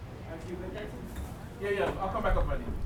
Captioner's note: woman speaks away from mic